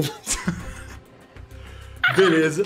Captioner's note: laughter